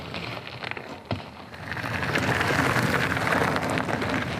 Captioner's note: gravel crunching